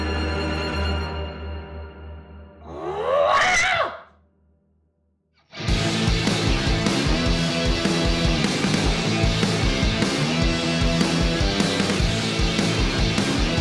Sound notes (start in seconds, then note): 2.6 Agnes screams